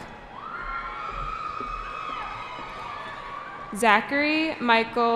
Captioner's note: cheering